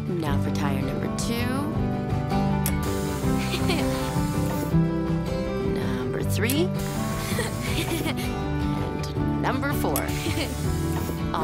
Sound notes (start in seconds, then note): 3.4 laughs